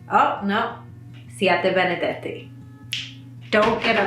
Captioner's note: finger snaps; speaking in foreign language